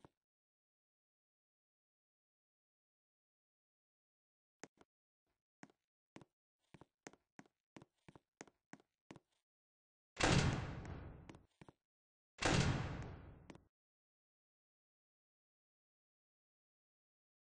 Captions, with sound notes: very big map to makee!! *more door noises* *door closes*